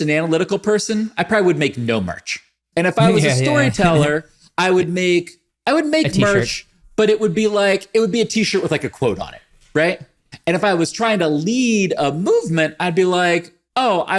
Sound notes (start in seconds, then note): 3.0 laughs